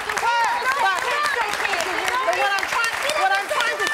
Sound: audience applause

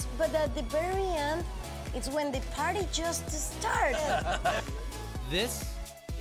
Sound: laughter

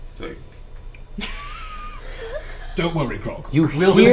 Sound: all laugh

